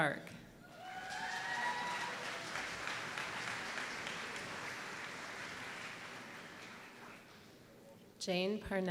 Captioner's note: applause